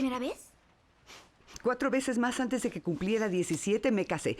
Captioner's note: sniffles